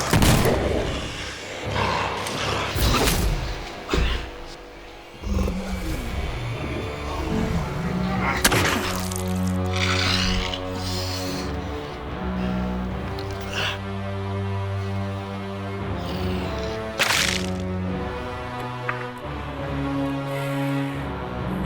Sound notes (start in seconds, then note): 0.0 gun firing; 0.1 growling; 2.3 blow thudding; 4.1 Jonathan thudding to floor; 8.3 growling; 8.4 ax thudding; 10.6 soft tense orchestral music; 16.9 flesh squelching; 18.6 ax clattering